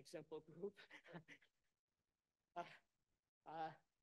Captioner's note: laughter